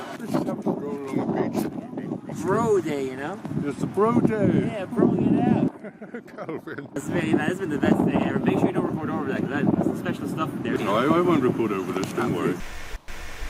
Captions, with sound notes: Let’s just have a stroll along the beach. Bro day! You know? Yes, a bro day. Yeah, bro-ing it out. [laughter] Calvin! Smithy, man, this has been the best day ever. Make sure you don’t record over that because there’s some special stuff there. No, I won’t record over this. Don’t worry.